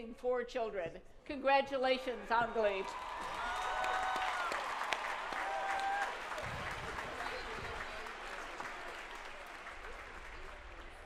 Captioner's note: applause